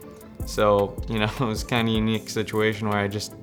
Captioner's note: laughs